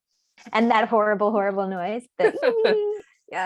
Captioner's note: laughter